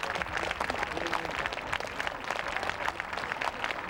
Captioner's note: crowd applauding